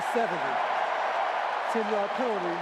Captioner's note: cheering